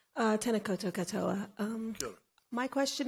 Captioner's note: speaks in foreign language